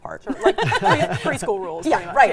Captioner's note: all laughing